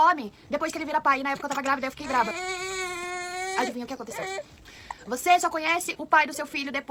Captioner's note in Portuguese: choro